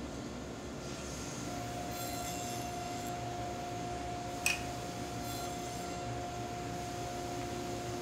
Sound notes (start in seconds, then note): 2.0 saw zings